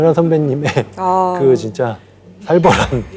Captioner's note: exclaiming